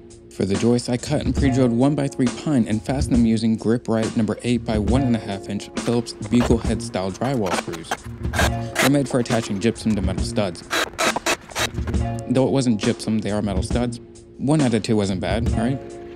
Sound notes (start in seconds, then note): 7.9 drill whirring